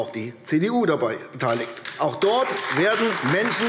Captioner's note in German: Beifall AfD